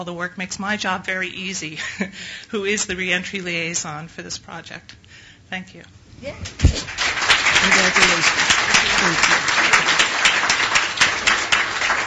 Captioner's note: applause